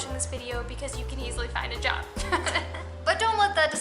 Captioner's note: laughter